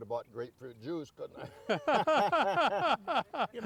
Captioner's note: laughing